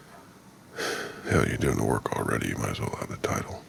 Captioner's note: sighs